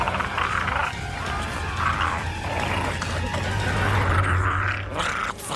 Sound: Perry growls in pain as he transforms

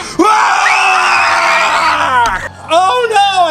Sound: kids scream

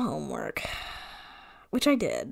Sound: sighs

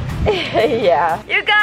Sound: laughing

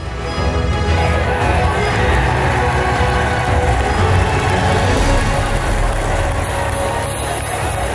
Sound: crowd cheering

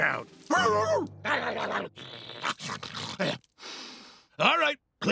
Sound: barking and snarling

